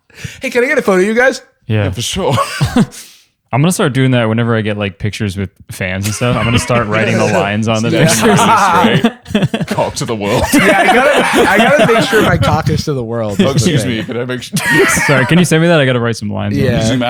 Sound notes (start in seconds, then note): 7.2 laughing; 10.6 laughter